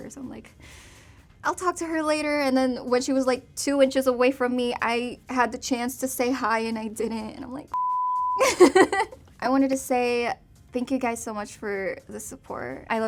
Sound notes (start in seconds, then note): 7.7 beep; 8.4 laughs